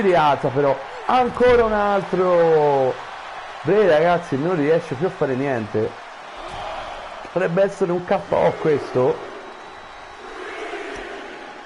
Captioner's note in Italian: Applauso